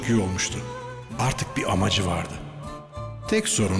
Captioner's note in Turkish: Ahmet dış ses